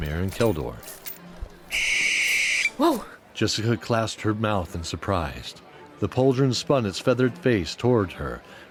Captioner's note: screech